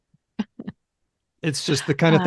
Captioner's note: laughs